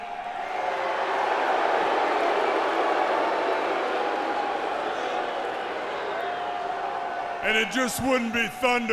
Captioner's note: crowd cheering